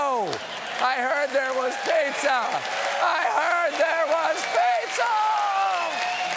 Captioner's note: applause